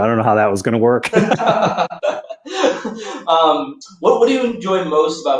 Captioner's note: laughter